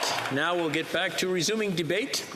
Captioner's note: some Applause